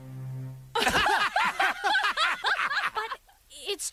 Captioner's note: laughter